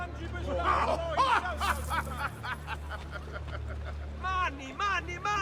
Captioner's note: laugh